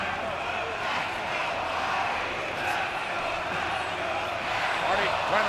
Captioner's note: audience cheering